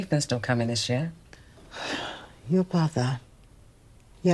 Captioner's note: Evelyn sighing